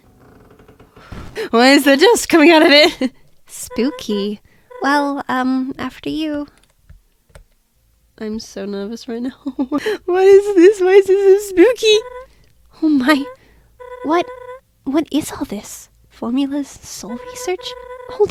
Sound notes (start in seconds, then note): 9.2 laughs